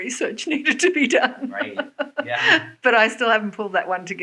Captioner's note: laughs